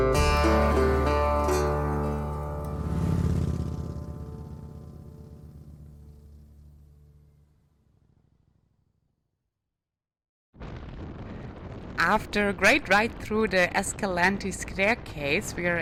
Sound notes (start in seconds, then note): 3.1 motorbike roaring